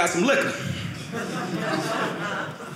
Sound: audience laughing

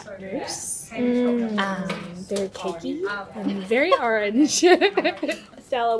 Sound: laughs

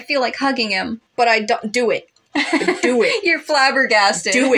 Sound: laugh

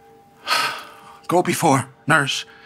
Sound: exhale

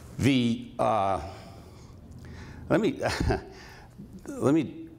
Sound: laughs

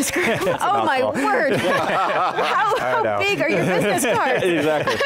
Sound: all laugh

